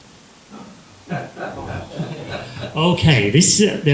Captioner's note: laughter